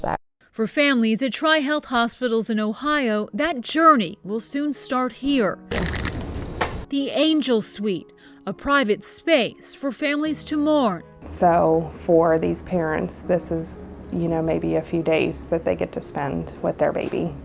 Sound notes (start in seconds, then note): 5.7 key card beeping